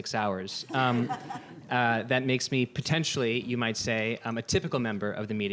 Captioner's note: laughter